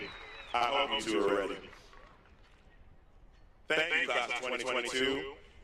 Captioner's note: applause